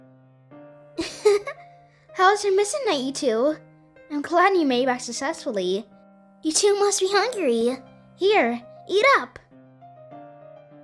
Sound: giggles

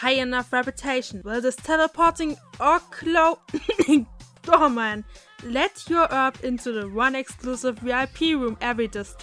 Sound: cough

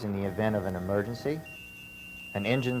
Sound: lights beeping

